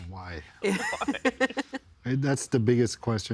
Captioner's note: others laughing